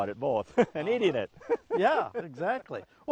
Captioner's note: laughs